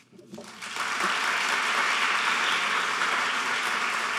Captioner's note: applauding